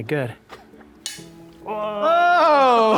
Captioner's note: snap